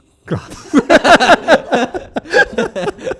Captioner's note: both laughing